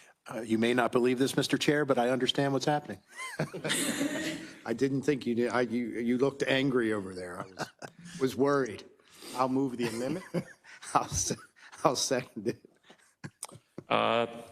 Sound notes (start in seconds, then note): 3.1 council laughs